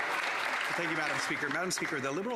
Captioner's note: applause